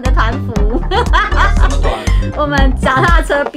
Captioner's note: laughs